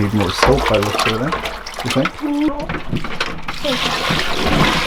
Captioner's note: woman mumbling; water sloshing